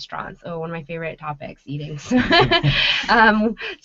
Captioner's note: laughing